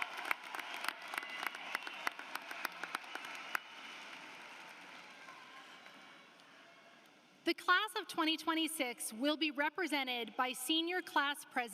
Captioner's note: applause